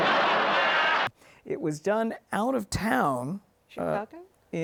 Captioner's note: audience laughs